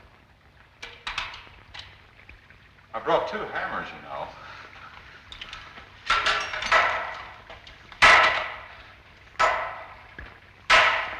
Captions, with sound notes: - Brought two hammers, you know. (banging)